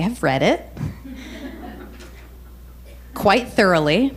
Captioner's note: crowd chuckles